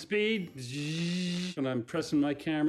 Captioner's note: vocalizing camera whirring